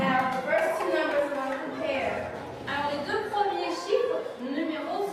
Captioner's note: speaks softly